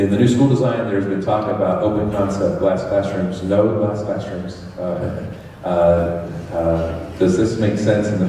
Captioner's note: laughs